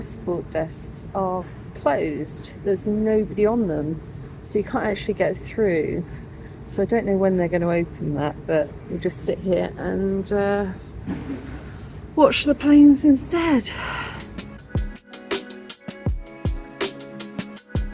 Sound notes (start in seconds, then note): 13.7 sigh; 14.0 chill music